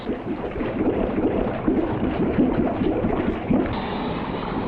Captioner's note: liquid bubbling